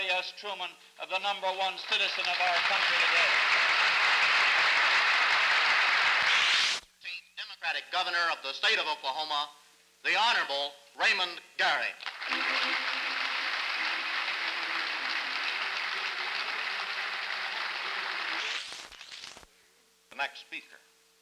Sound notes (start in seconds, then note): 4.3 applause; 12.0 applause